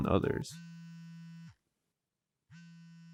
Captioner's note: phone vibrating